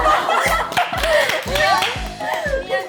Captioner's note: laughing